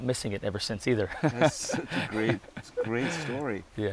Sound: laughing

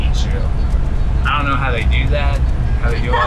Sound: laughing

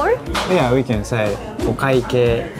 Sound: speaking in Japanese

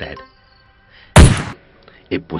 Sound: gunshots

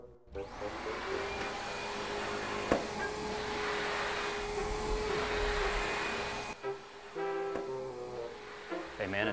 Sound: vacuum

